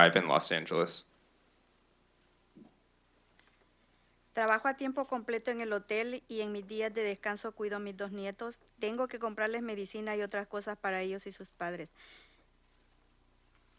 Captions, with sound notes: In Los Angeles. (Speaking in Spanish)